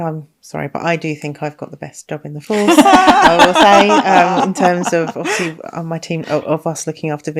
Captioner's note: laughing